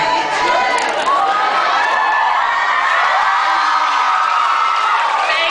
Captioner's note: cheers